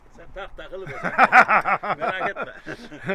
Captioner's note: laughings